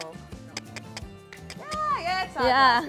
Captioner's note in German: Schnalzen